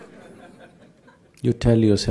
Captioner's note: laughter